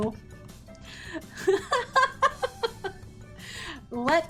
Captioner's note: laughs